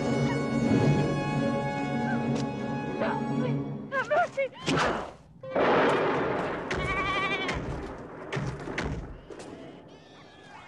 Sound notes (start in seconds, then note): 0.0 slow, tense orchestral music; 6.8 sheep baaing